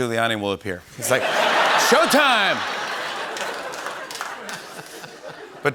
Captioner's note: laughter